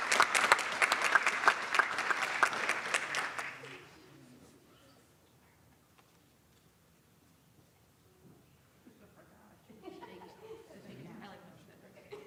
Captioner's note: applause